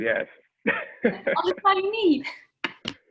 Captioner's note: laughing